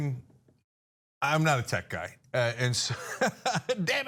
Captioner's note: laugh